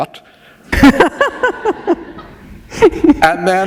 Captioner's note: laughter